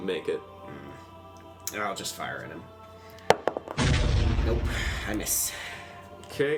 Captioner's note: explosion sound